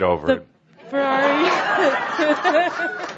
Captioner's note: laughter